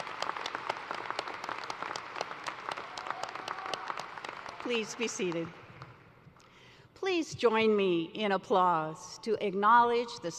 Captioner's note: applause